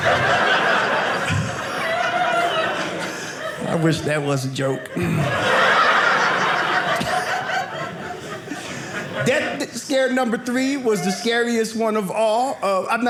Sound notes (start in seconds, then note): 0.3 audience laughing; 4.8 audience laughing